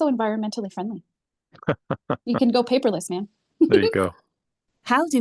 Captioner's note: laughs